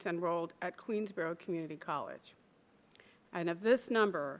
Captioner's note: none